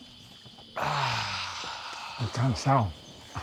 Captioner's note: exhales sharply